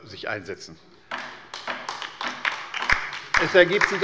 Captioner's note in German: Beifall bei der LINKEN